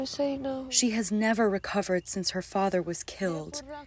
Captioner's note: through translator